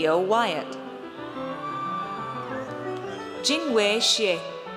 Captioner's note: audience cheers